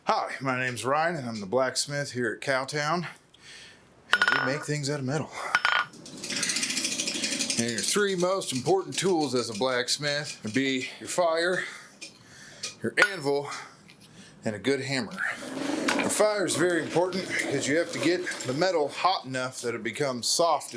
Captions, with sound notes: Hi, my name is Ryan, and I'm the blacksmith here at Cowtown, and we make things out of metal. [clanking hammer on anvil] [cranking] Now your three most important tools as a blacksmith would be your fire, your anvil, and a good hammer.